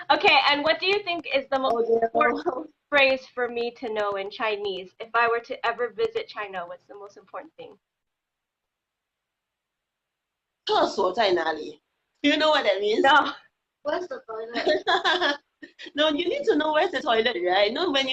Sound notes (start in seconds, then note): 11.1 speaking foreign language; 14.5 laughing